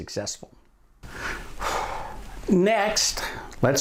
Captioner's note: breathes deeply